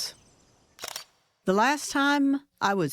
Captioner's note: camera shutter clicks